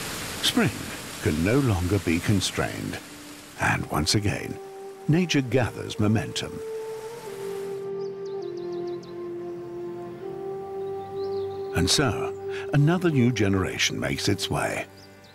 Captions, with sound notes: Spring can no longer be constrained and, once again, nature gathers momentum. [birds twittering] And so, another new generation makes its way,